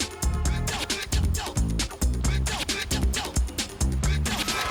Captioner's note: horn honks